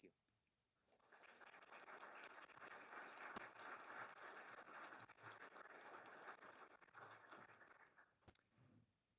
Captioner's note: applause